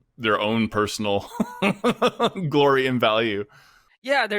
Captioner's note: laughs